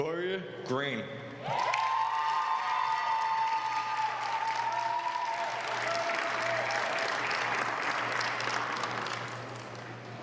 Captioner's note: applause